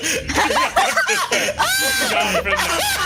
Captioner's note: all laughing